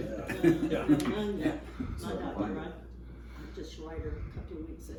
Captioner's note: laughing